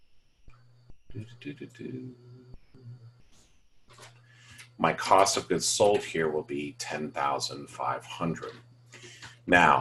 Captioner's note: hums